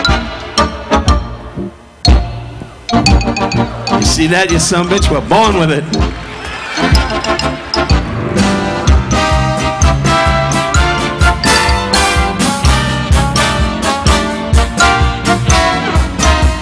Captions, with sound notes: (upbeat instrumental music continues) You see that you son of a bitch? We're born with it. (audience laughing) (audience applauding) (upbeat instrumental music continues)